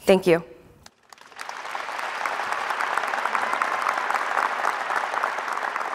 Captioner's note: applause